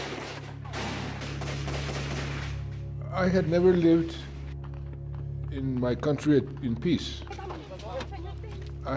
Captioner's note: gunfire